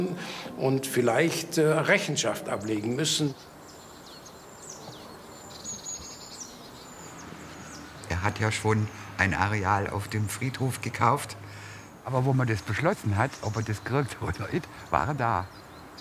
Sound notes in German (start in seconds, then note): 3.7 Vogelzwitschern